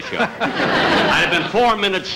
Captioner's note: audience Laughing